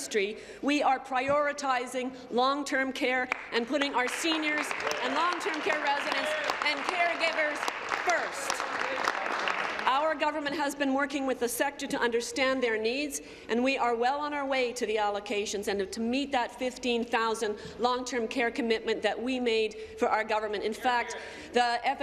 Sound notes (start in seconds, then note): 8.9 applause